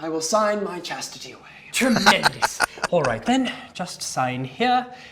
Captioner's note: laughing